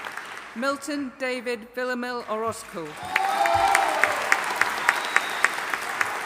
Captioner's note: audience applauding